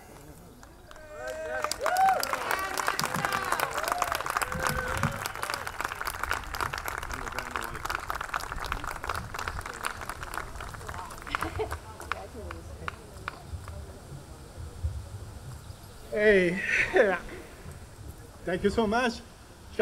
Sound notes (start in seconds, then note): 0.8 audience cheering; 11.2 chuckles